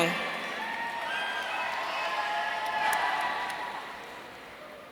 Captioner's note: audience cheering